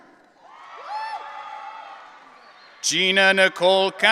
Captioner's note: audience cheering